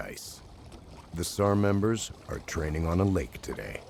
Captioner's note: voiceover